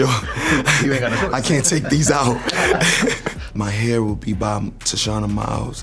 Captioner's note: laughing